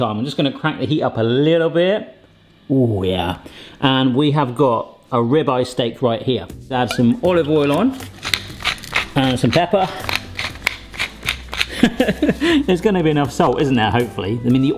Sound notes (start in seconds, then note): 8.8 pepper grinder crackling; 10.8 pepper grinder crackling; 11.6 laughing